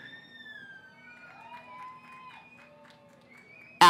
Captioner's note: cheering